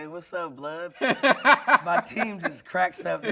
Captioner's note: laughing